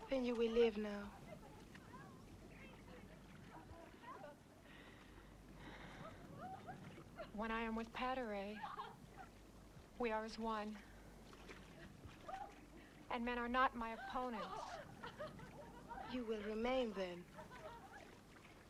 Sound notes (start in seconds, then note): 5.5 Hundra sighs